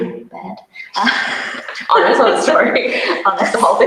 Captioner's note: both laugh; laughter drowns out speaker